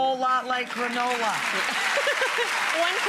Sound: audience applauds

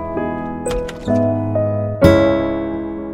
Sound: door opens

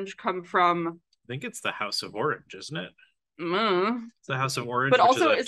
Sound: hums “I ’unno”

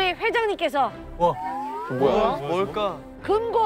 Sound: excited

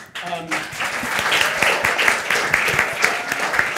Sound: all applauding

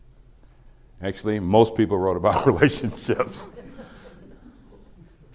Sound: laughs

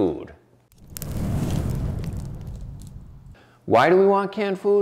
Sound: fire blazing

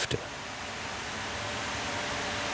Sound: droning, whirring

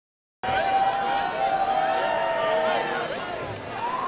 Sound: crowd cheering

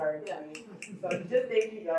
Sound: audience snaps fingers

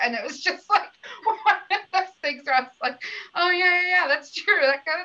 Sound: laughter

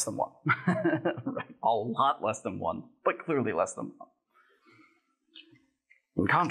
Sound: laughs

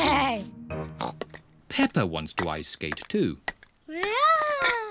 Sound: snorts

